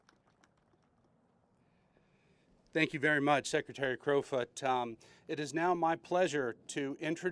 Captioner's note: applause